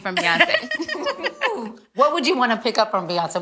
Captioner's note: ladies laughing